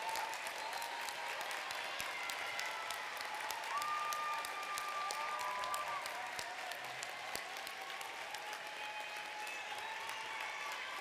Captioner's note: cheers and applause